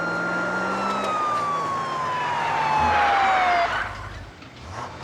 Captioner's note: tires screeching